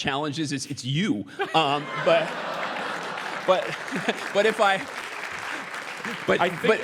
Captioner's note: laugh; applause